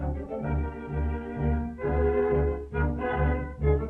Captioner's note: none